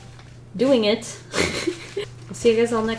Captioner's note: laughs